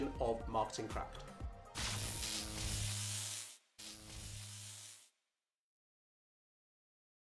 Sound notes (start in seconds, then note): 1.8 buzzing sound